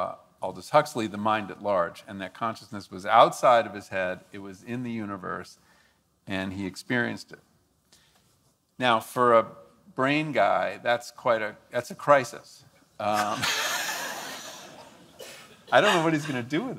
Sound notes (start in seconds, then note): 13.1 laughs